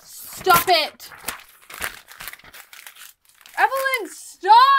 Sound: continues tearing

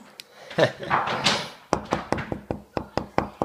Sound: man chuckles

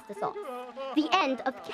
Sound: people crying

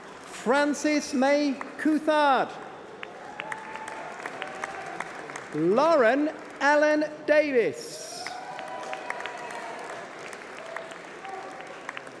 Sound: applause

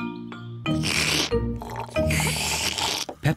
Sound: both slurping

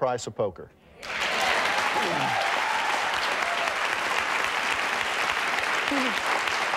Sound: audience cheering and applauding; chuckles

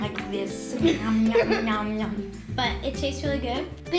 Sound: laughs

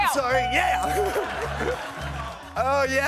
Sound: chuckles

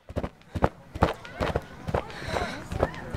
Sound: footsteps

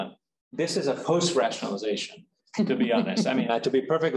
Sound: chuckling

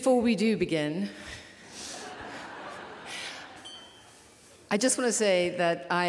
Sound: laughter

